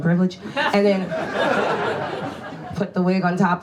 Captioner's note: audience laughs